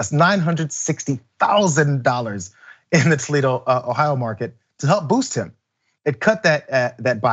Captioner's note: laugh